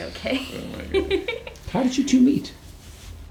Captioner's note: laughing